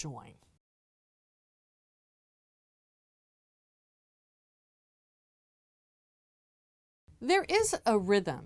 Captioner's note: no Sound Present